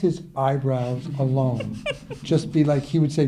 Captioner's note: laughing